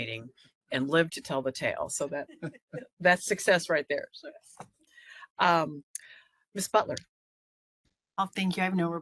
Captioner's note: laughing